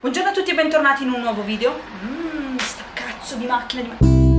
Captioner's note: car noises